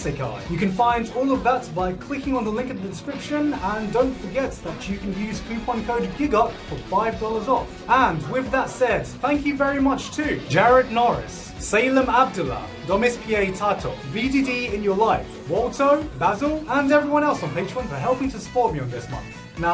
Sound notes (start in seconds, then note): none